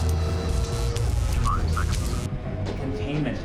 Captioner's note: computer voice